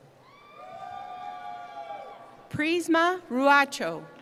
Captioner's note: cheering